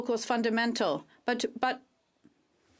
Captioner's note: speaking French